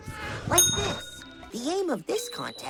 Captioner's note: ding